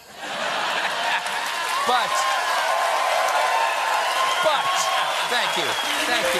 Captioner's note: laughter; cheers and applause